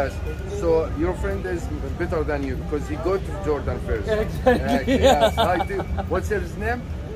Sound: laughs

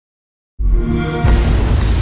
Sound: xbox sound

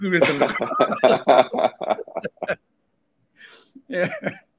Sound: both laughing

